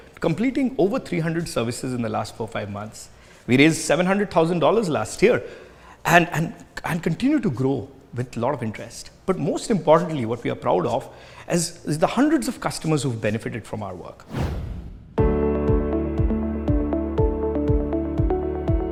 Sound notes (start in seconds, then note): 14.2 air whooshing; 15.2 gentle upbeat music